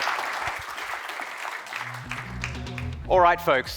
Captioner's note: audience applauding